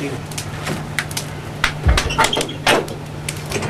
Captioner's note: fire crackling; door squeaking